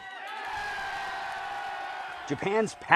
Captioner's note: group applauding; group cheering